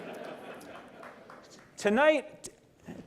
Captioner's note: laughter